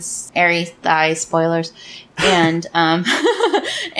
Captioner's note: laughs